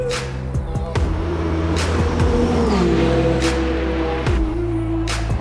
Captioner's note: car engine zooms; car engine roars